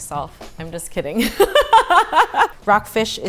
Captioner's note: laughing